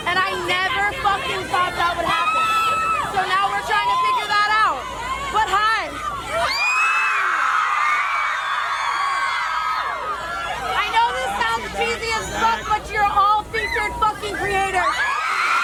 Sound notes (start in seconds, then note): 7.2 crowd screams; 15.4 crowd screams